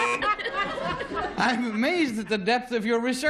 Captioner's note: buzzer